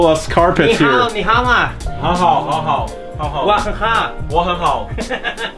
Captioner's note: speaking foreign language